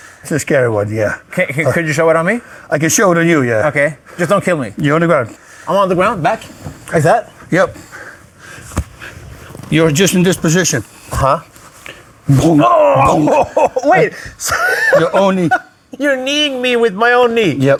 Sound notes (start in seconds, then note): 7.7 Bas loudly breathing; 12.5 laughs